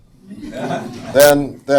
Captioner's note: audience laughs